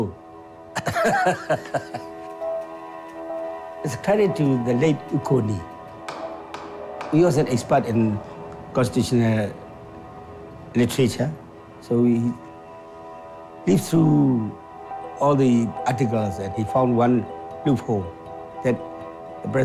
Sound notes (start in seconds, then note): 0.7 laughing